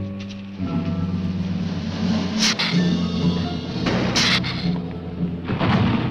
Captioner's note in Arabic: هسهسة و دوي